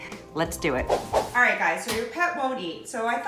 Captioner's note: swooshing